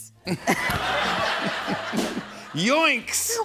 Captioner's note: laughter